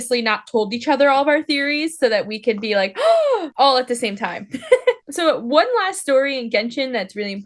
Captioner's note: gasp